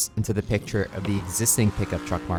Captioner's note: vehicle whooshing